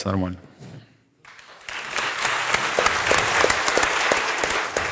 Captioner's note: applause